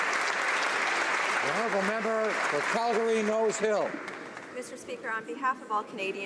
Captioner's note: applause